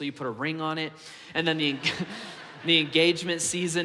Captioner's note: congregation laughs